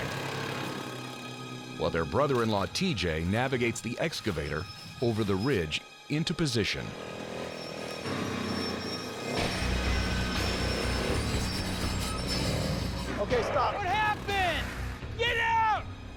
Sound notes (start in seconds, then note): 8.0 tense music; 12.0 clanging sound